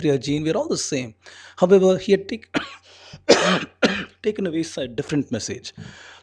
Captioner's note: coughing